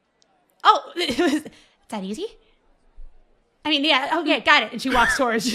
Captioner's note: laughs